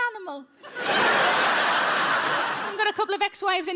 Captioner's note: audience laughing